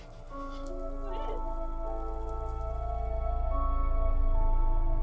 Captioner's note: grim music; Jordyn crying; grim music